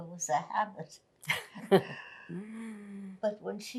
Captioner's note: laughing